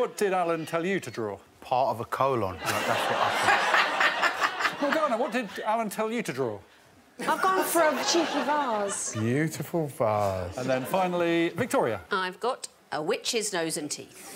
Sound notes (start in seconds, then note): 0.2 Morgana laughing; 2.6 audience laughing; 6.4 all laughing; 10.4 audience laughing